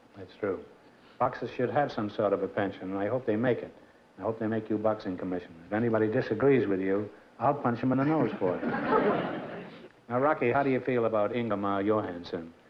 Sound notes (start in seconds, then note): 8.0 laughter